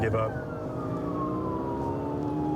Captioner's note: siren blaring